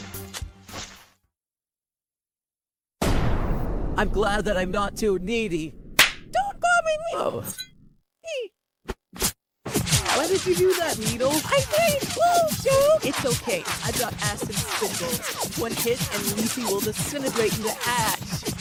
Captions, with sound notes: [Boom] -I'm glad that I'm not too needy! [Slap] Don't call me Need-- -GRRR! --y! -Why did you do that, Needle? -I didn't mean to! -That's okay, I've got acid spitballs! One hit, and Leafy will disintegrate into ash!